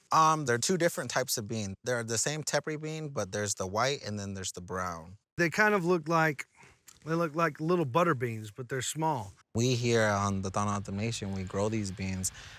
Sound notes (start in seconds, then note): none